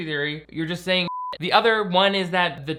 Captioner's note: beep